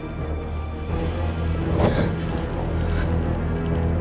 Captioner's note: Brenda panting